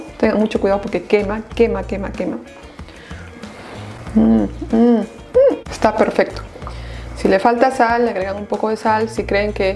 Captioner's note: sound of deliciousness o